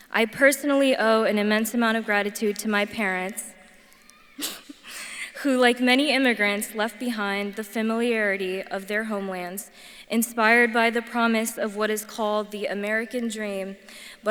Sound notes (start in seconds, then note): 4.0 laughs